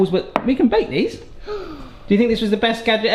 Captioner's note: gasps